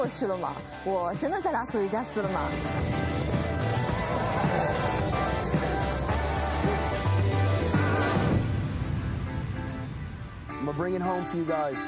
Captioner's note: speaking chinese